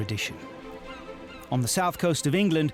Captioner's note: seagull squawking